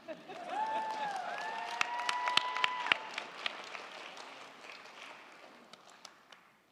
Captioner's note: crowd cheering; crowd clapping